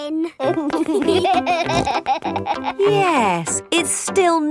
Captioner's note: laughing